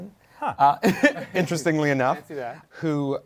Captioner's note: chuckles